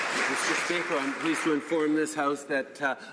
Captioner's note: some Applause